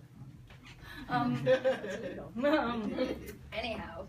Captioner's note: people laugh